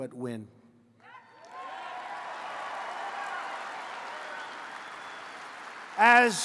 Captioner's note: applause